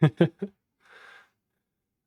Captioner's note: laughs